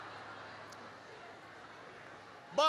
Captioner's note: laughter